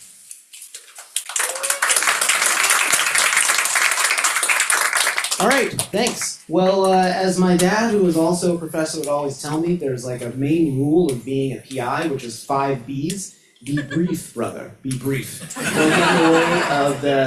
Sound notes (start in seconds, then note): 0.7 crowd members clapping; 1.2 crowd members cheering; 15.4 crowd members laughing